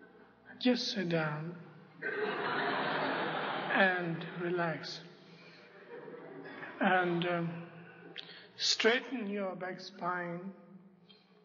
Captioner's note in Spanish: risas